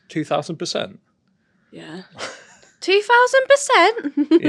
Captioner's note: chuckles